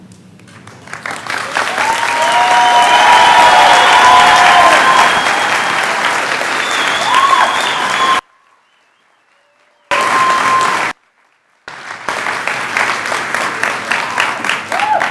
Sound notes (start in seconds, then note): 0.3 clapping